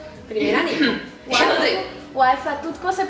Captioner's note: coughs